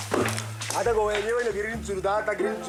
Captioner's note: Portuguese spoken audio